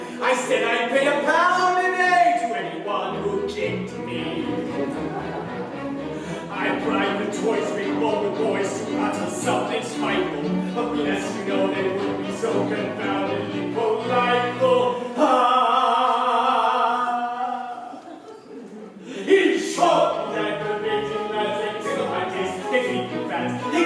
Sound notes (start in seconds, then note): 17.7 laughter